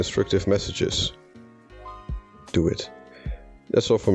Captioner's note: whispering